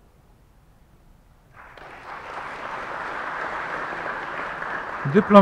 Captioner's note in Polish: oklaski